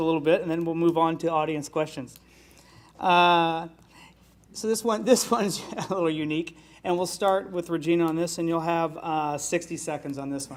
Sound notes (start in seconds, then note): 5.0 laughs